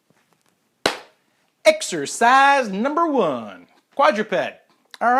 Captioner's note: claping